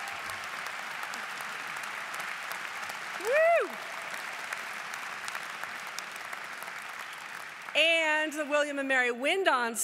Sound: applause

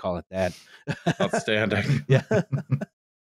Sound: laughs

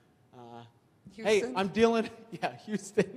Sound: laughs

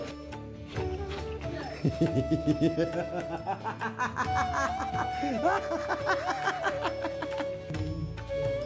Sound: hysterical laughter

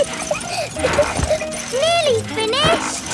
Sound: peppa laughing

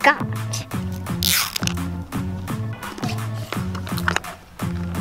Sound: plastic ripping

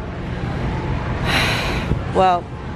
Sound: sigh

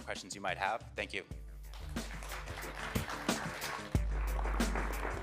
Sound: applause

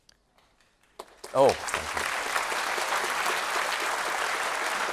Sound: applause

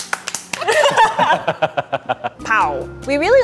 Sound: laughs

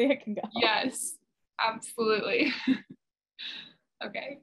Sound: laughs

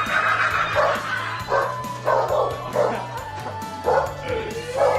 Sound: dog barking

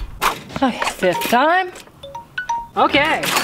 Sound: timer beeps

